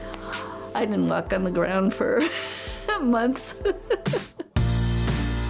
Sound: laughs; lively upbeat music

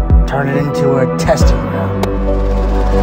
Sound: helicopter blades whirring

